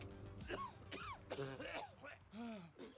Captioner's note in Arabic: سعال